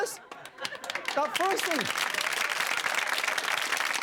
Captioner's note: clapping